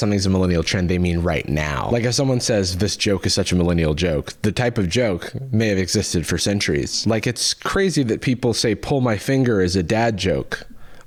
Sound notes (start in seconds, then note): none